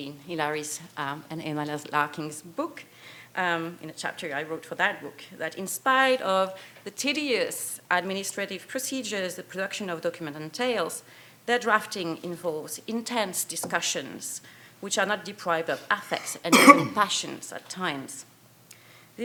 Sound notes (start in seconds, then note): 16.4 cough in audience drowns out lecturer